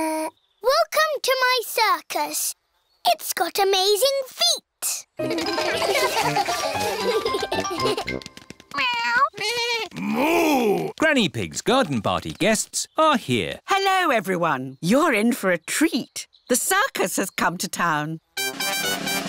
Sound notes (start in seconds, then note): 5.2 all giggle